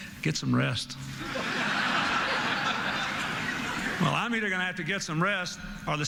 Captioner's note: laughter